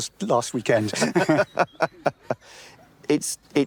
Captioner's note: they laugh